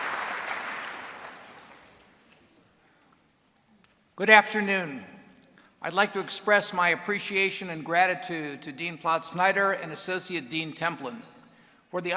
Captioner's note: applause